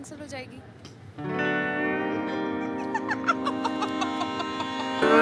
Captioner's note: Laughing hilariously